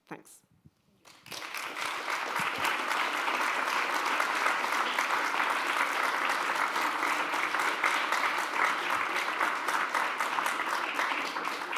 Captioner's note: applause